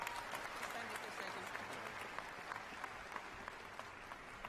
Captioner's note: applause